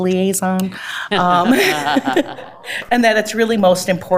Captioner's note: board Members laugh